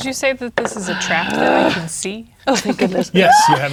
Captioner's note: growling; laughing